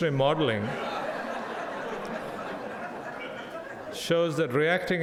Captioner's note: audience laughs